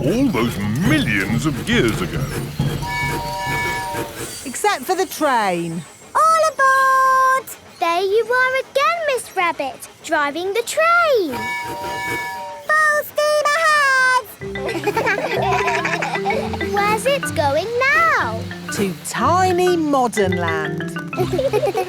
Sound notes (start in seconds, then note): 2.8 train tooting; 11.2 tooting; 14.4 kids laugh; 21.1 laughing